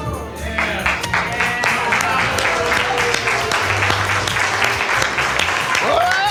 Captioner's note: audience applauds